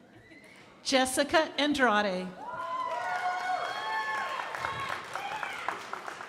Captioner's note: crowd applauding